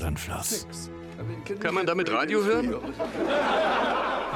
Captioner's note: laughing; voiceover